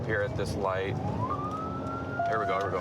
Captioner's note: sirens